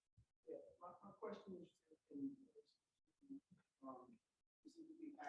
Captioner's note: voice muffling